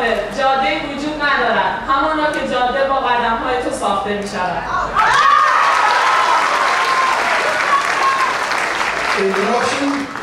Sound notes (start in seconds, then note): 0.6 speaking in foreign language; 5.6 clapping